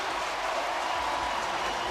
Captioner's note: cheering